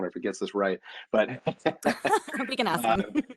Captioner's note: laughs